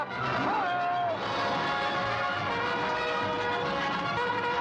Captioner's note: hooves pounding; bugle call